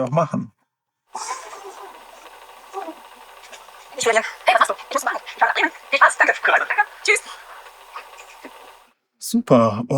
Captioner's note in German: Voice-over sehr schnell vorgespult